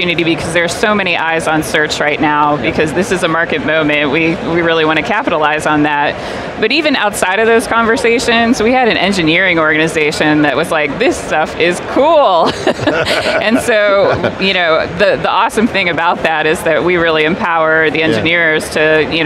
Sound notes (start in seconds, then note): 12.4 laughing